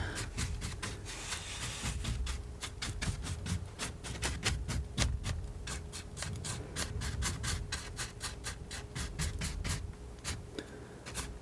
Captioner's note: scratching